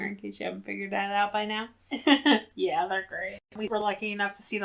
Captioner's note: laughs